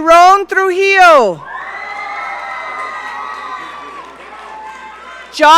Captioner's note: audience cheering